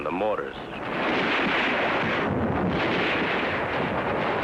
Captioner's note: mortars firing